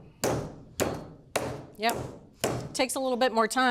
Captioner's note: tenderizer pounding